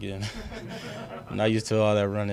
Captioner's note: laughing